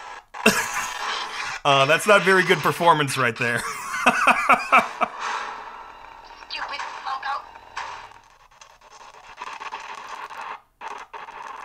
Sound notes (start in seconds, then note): 3.4 laughing